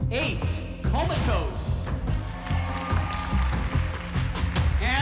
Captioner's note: cheering, applause